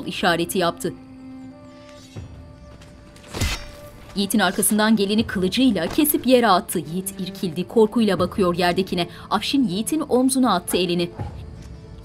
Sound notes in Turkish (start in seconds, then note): 3.3 Kılıç sesleri